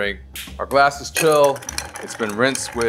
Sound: spoon tapping

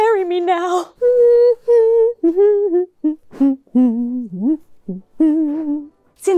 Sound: hums wedding theme

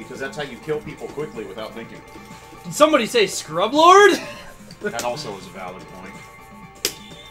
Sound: slap

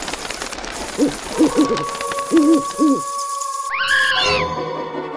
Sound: howling

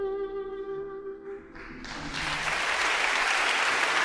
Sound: applause

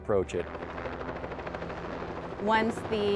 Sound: helicopter buzzing

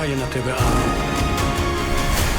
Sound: creature snarls

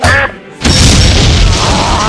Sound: dispenser blows up

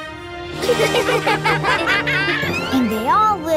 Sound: laughing

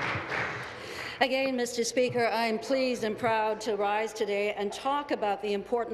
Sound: applause

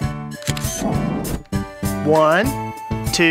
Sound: SFX: Camera Shutter

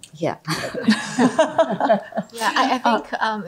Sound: laughter

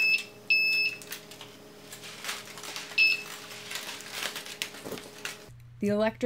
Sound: beep beep beep

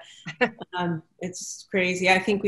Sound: laughing

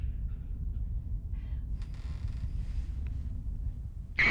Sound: woman speaking fearfully in foreign language; furniture creaking

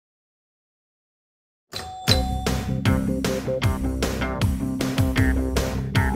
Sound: pinball bells; electronic music

